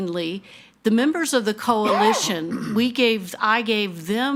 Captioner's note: attendee coughing